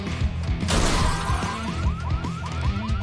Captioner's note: crash!; car alarm wails